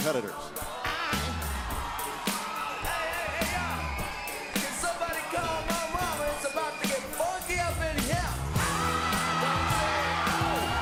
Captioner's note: crowd cheering